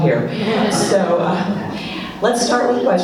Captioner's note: laughs